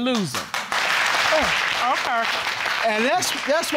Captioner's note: audience clapping